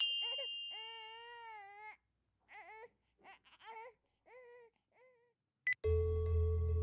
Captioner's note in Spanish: Bip en el celular